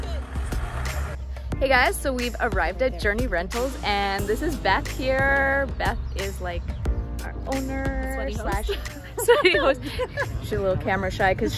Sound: laughing

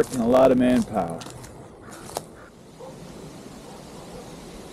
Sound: water rushing

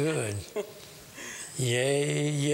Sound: laughter

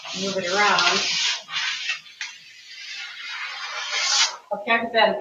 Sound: paper scratching

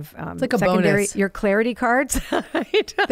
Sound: laughs

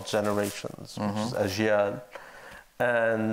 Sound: foreign language

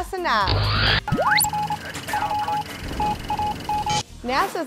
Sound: sound Effects

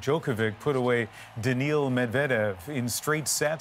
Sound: cheers and Applause

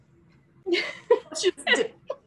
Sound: laughs

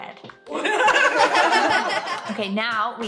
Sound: laughter

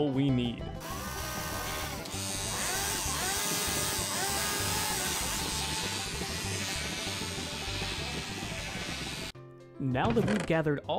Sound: cowboy music; shaving sounds

